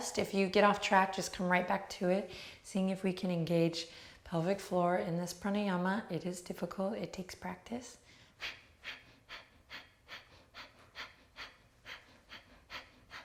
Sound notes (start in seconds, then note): 8.0 sharp breathing